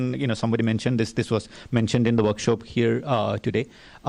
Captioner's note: none